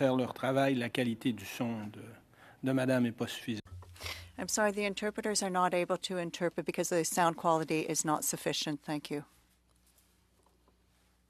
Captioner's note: speaking French